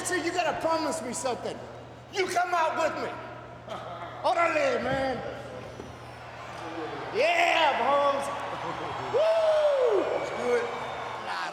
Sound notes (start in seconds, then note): 5.7 crowd cheering